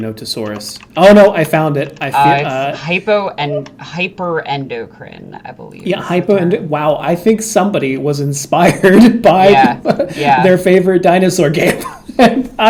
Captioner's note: laughing